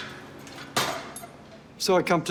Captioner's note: machines clunk